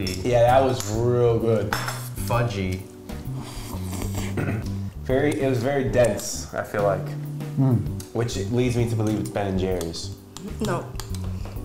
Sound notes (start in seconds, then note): 3.2 slurping sound